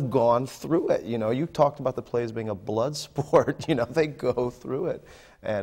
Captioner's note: laughs